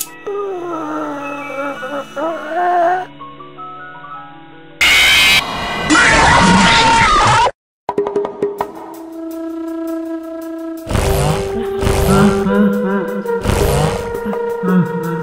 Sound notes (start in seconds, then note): 0.2 moaning; 5.8 yelling